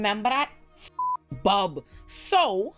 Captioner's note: beep